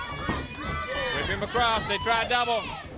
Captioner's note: crowd chatter